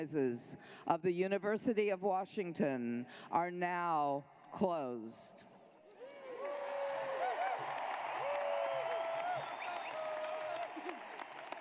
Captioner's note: cheers and applause